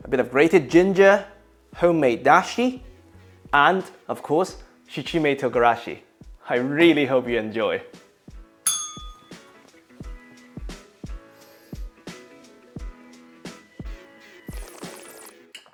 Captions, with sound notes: a bit of grated ginger, homemade dashi, and of course, shichimi togarashi. I really hope you enjoy. [bell rings] [slurps]